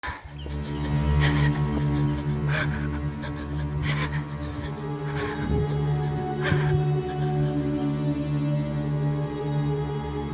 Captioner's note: heavy breathing